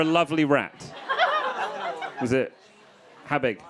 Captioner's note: crowd laughing